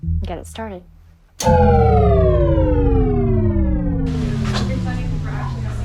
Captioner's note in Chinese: 斷電音效